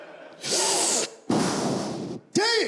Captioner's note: sucking air